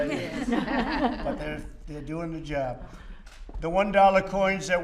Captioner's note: laughter